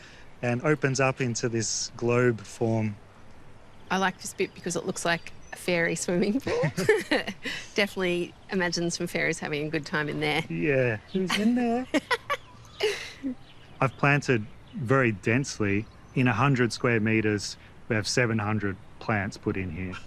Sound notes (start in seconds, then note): 6.2 both chuckle; 10.0 laughs